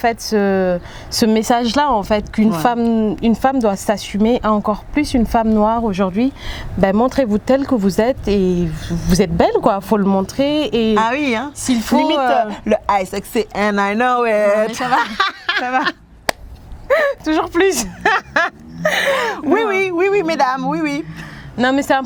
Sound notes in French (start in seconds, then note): 14.6 rires